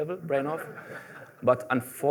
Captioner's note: laughter